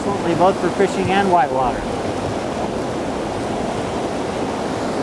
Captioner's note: loud rushing water